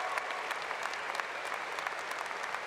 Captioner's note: applause